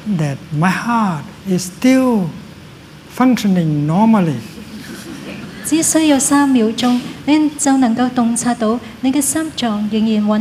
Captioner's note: laughter